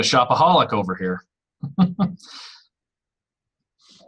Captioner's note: laughs